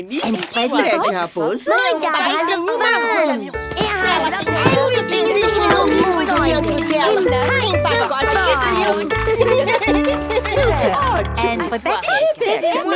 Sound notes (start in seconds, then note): 9.3 giggles